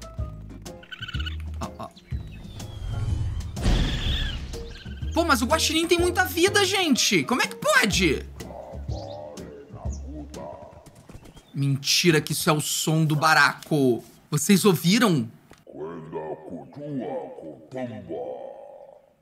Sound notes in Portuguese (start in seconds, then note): 2.7 som de explosão; 8.7 som do barako falando